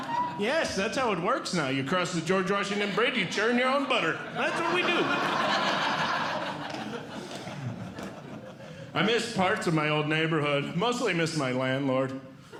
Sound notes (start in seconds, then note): 5.2 audience Laughing